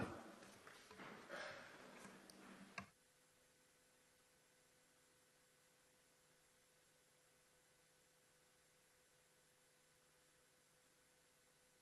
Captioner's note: noise from microphones